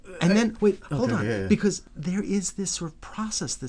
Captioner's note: voiceover